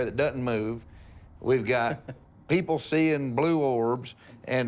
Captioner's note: chuckles